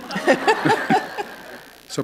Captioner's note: laughter